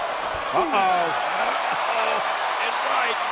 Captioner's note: crowd vocalizing